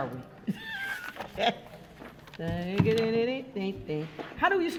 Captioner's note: chuckles